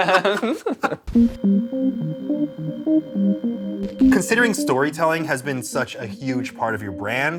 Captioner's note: laughter